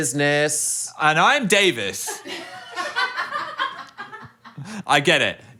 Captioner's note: people laughing